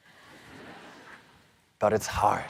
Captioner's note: audience laughing